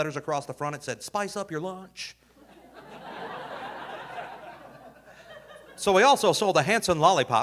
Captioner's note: audience laughing